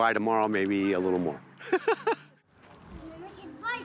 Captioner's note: laughing